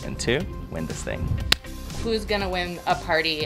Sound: hands smack

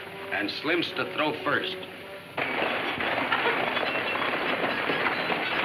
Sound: horses galloping

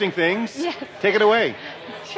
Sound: laughing

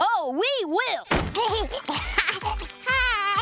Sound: laughing and cooing

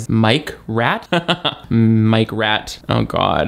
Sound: laughs

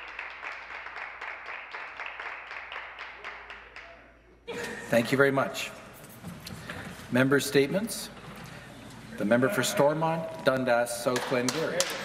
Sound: some Applause

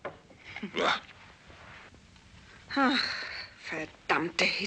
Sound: Georgia laughs

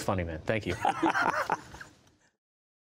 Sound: laughter

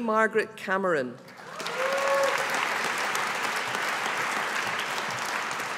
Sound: audience applauding

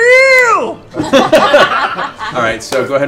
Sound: laughter

